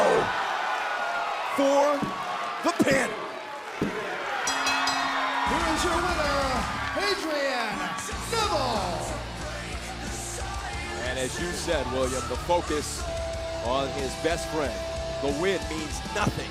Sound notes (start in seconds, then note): 4.4 crowd cheering; 4.4 bell ringing